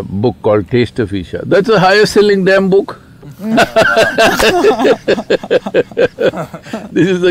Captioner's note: laughter